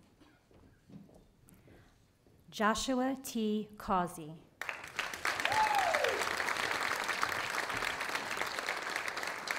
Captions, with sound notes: Joshua T. Causey. (audience applauding)